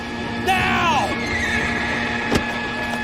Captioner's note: horse neighs